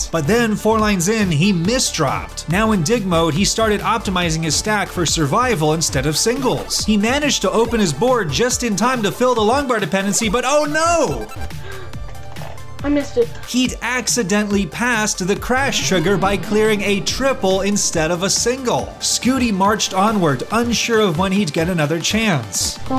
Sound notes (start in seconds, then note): 11.5 gasp